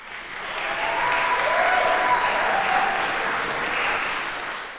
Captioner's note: applause, cheering